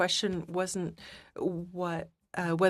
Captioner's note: speaking French